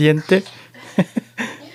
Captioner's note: laughs